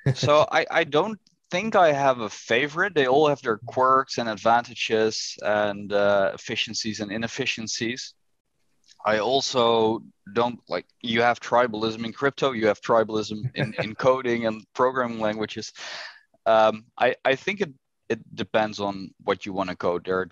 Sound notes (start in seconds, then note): 13.3 chuckles